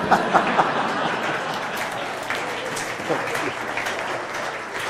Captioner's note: laughter; applause